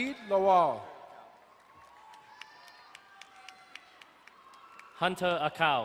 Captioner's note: crowd cheering and applauding